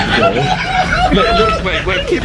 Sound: laughing

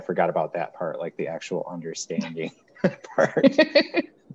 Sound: chuckles

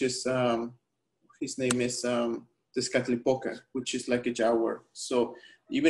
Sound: speaking spanish

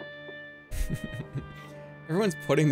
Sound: chuckles

